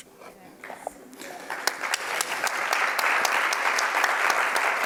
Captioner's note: audience clapping